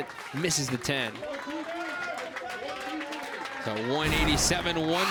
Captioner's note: crowd cheers and applauds